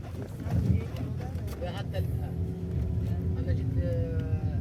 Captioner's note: people chattering